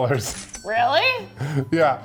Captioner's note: cash register clicking